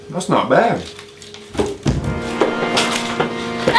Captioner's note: floorboard closes